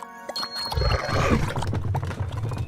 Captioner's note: pigs growl